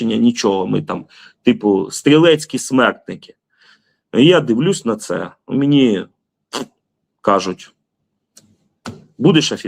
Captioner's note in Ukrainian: сопіння